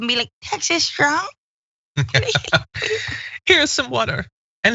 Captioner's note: laugh